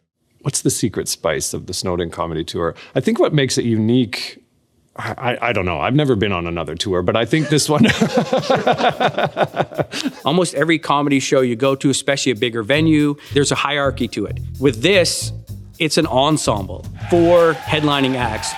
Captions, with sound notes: What's the secret spice of the snowed in comedy tour? I think what makes it unique. I-I-I don't know, I've never been on another tour, but I think this one. (Laughter) Almost every comedy show you go to, especially a bigger venue, there's a hierarchy to it. With this, it's an ensemble, four headlining acts.